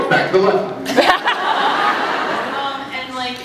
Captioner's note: laughs